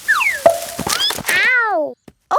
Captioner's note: thud